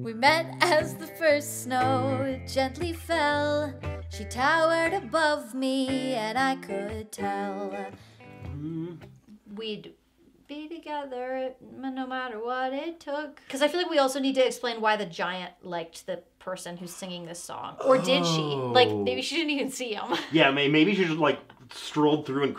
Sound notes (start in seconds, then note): 8.3 humming; 17.8 laughing